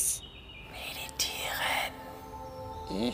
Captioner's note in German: leise